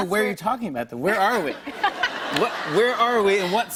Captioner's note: laughter